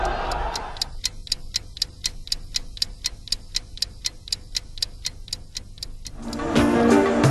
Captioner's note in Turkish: Tik-Tak